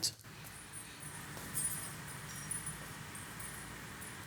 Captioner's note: metal jingling